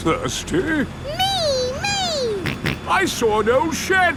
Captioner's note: snorts